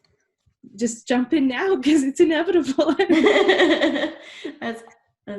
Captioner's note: laughs